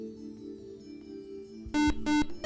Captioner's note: buzzer